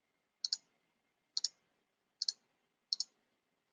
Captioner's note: mouse clicking